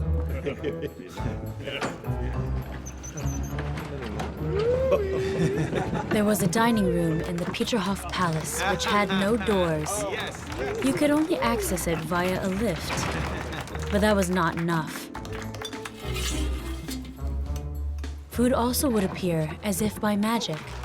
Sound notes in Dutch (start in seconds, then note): 0.0 mannen lachen; 5.3 mensen lachen; 6.0 mensen kletsen